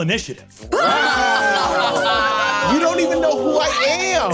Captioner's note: exclaims and laughs